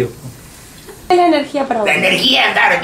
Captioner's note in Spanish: voz en off